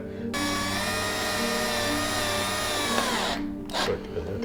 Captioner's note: drill whirring